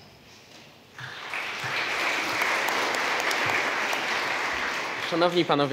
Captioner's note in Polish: oklaski